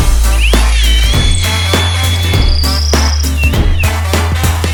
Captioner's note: drill whirring